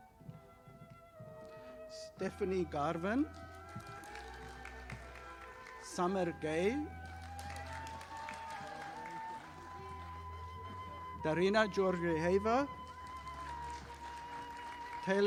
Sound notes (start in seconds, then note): 3.2 audience applauding; 13.3 audience applauding